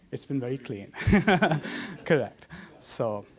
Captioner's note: laugh